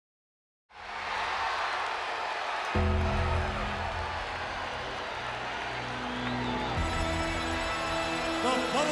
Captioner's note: applause